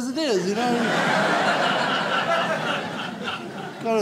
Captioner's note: audience laughs